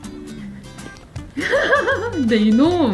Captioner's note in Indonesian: tertawa